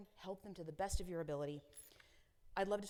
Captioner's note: metal clinking